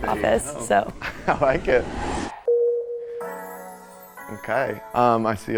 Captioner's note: laughs